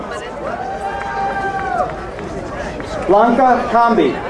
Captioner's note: crowd cheering